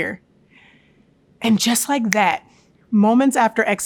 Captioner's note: fingers snapping